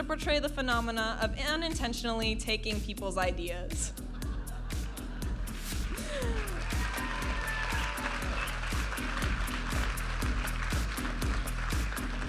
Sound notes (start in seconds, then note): 4.0 audience laughing; 6.2 audience applauding and cheering; 9.4 upbeat music